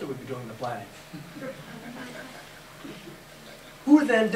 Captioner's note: laughter